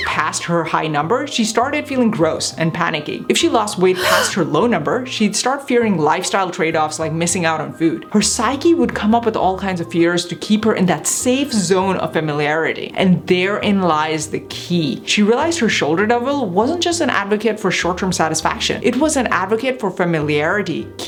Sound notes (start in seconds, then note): 3.9 woman gasps